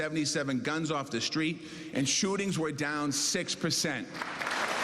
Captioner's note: cheers and applause